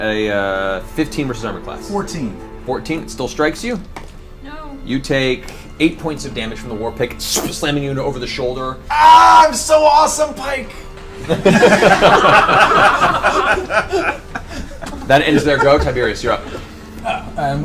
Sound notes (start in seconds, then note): 8.8 yells out; 11.2 all laugh